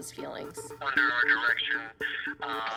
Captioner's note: on phone